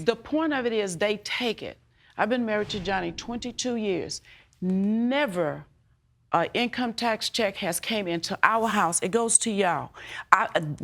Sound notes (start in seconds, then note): none